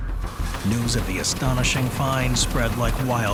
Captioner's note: printing machine whirs